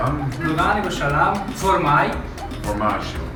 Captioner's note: man talking in Italian dialect